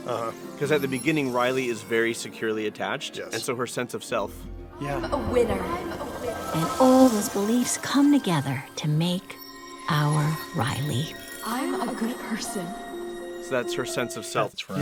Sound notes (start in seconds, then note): 6.0 echoing